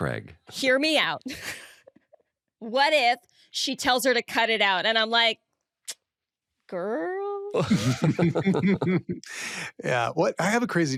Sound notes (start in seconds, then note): 1.7 laughs; 7.6 all laugh